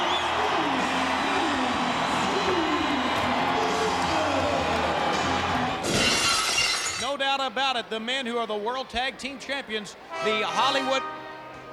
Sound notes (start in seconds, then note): 0.0 audience cheers; 5.8 glass shatters